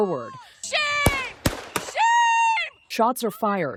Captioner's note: gunshots